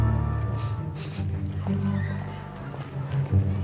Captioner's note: sniffs